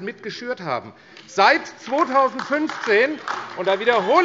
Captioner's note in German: Beifall AfD - Lebhafte Zurufe BÜNDNIS 90/DIE GRÜNEN, SPD und DIE LINKE